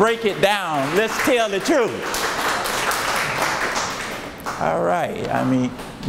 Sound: audience applauds

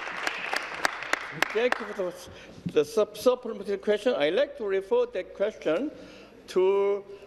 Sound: applause

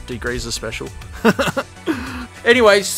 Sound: laughs

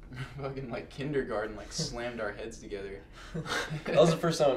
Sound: laughs

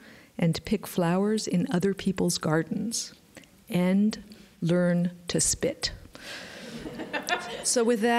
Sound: laughter

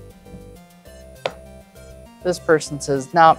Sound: chip thuds

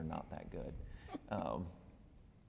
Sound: laughs

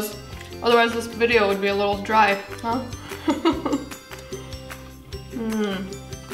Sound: laughs

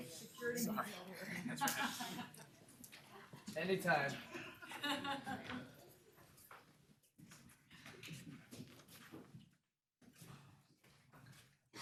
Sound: applause

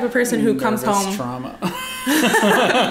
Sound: laughter

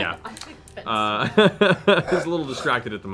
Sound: laughing

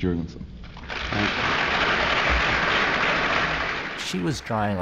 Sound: applause

